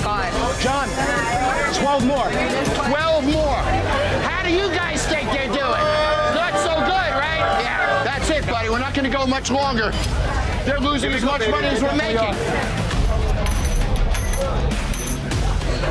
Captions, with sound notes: - Jon, 12 more. - 12 more? How do you guys think they're doing? [boos] Not so good, right? Yeah, that's it, buddy. We're not going to go much longer. They're losing as much money as we're making.